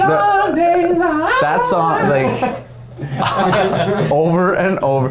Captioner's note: men laughing